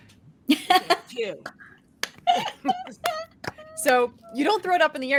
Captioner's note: group laughing